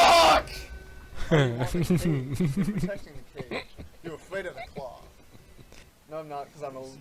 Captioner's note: chuckles